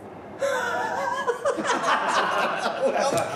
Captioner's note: laughs